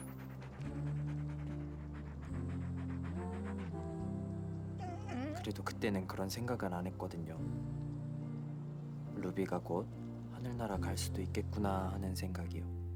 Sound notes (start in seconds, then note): 0.0 panting; 4.8 whines